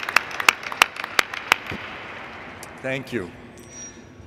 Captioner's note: thank you.APPLAUSE